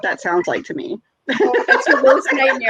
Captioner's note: laughs